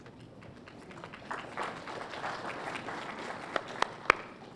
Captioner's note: applause